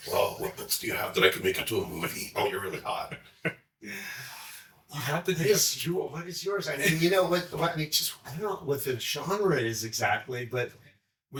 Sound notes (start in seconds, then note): 1.9 chuckling